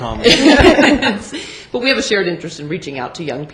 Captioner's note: laughter